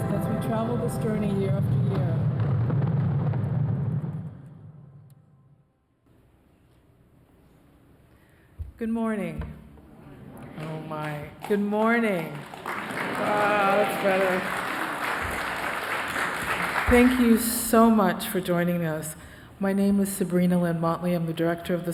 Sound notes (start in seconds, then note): 10.0 crowd murmurs; 10.4 crowd responds louder and applauds